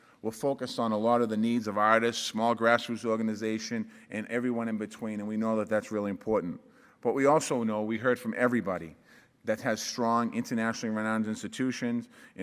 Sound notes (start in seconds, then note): none